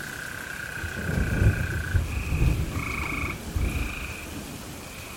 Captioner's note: lightning cracking